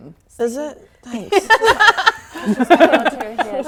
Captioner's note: laughing